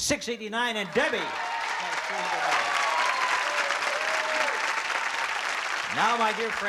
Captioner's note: applause and cheering